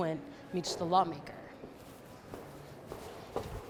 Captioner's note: footsteps